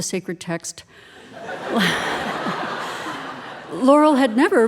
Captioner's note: audience laughing